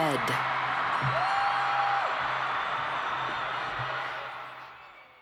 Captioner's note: cheers